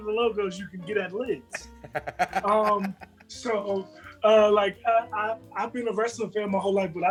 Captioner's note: laugh